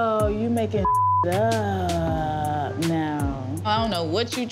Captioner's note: beep